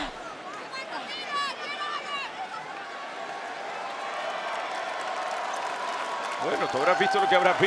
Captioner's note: applause